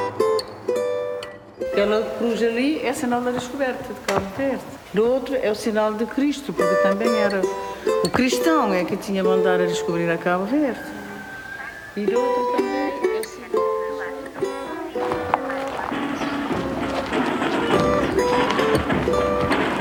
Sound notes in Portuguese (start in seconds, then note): 15.5 vozes; 19.1 batuques